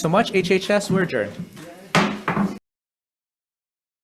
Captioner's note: gavel slams